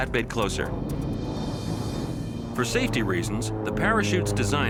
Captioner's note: airplane roaring